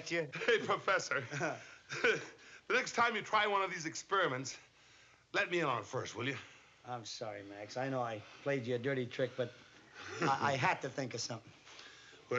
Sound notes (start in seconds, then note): 0.1 chuckles